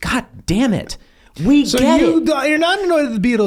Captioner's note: Rob laughs